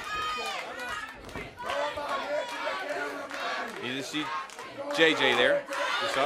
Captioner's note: crowd cheering